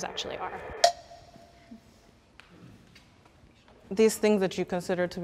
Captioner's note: bell dings